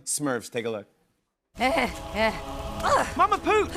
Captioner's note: groaning